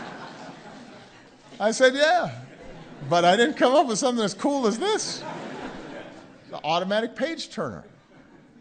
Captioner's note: laughter; laughter